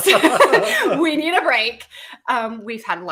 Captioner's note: laughing